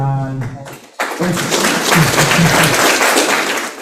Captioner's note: applause